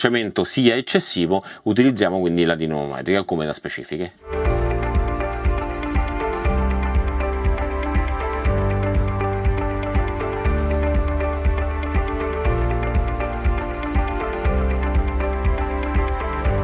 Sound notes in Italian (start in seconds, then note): 4.8 Applauso